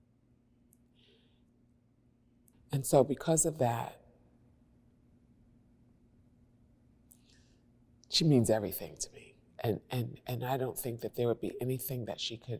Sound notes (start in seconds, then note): none